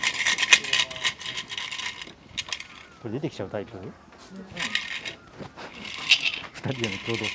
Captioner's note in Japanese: おみくじを振るカラカラという音